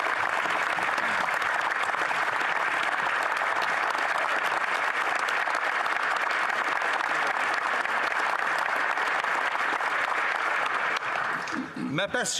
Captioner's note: applause